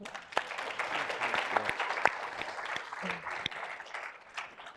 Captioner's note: audience applauding